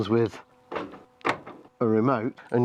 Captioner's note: motorised 'clunk'